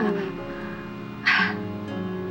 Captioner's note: chuckles